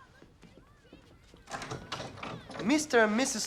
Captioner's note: door lock opens